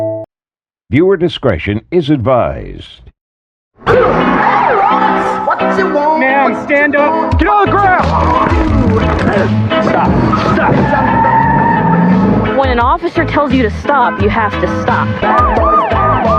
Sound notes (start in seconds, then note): 7.3 shoing; 15.1 sirens